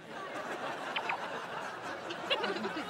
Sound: phone chirps

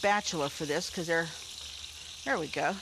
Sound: meat sizzling

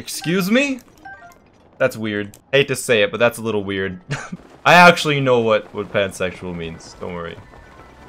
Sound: laughs

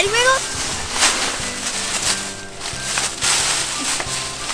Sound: leaves rattling

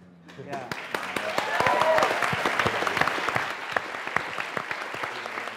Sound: applause

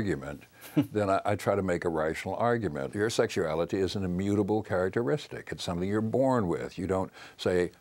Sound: chuckles

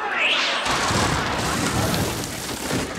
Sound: crashing

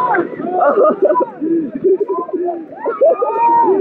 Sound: laugh

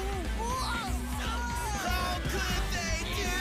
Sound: shouting

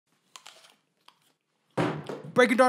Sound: crunch

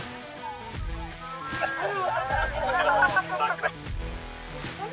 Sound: laughter

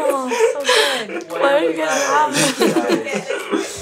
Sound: laughing

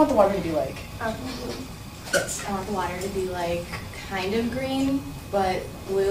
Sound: voiceover

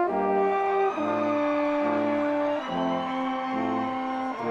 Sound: audience cheers

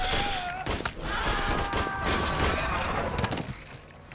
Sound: dinosaur growls; man screams; gun fires

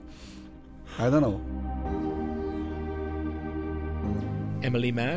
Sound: voiceover

